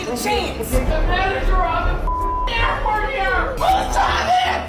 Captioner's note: beeping; shouting